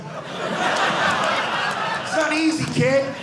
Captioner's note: audience laughing